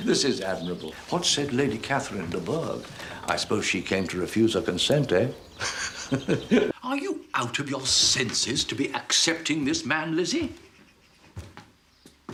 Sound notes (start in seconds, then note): 5.6 Mr Bennet laughs